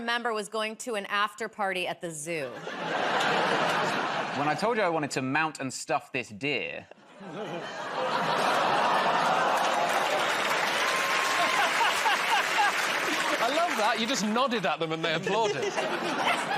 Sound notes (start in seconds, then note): 8.6 audience groans; 10.6 cheers and applause